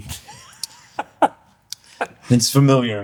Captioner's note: laughter